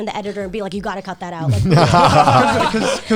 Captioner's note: guys laughing